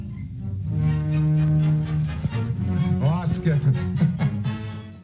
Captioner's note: laughing